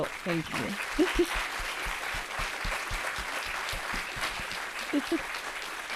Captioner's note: audience applauding